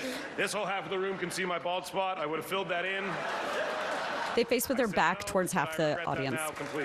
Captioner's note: laughter